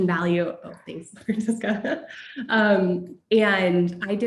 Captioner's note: laugh